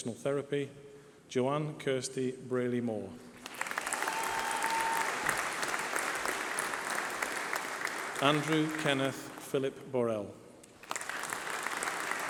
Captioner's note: applause